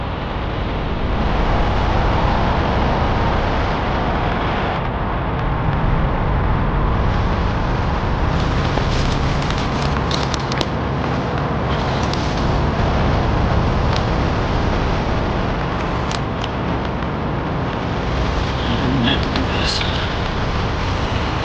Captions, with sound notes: (intense music) (footsteps crunching) (intense music) - You don't have to do this.